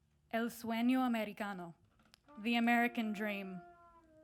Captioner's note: speaks in foreign language